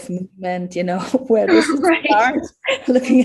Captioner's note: chortles